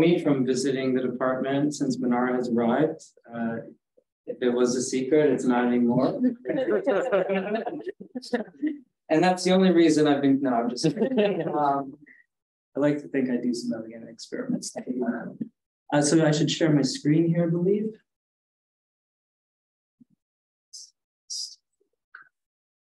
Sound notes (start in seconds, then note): 6.2 audience chuckling